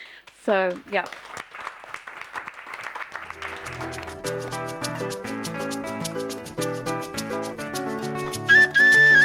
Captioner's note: applause